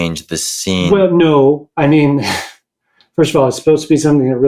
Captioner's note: chuckles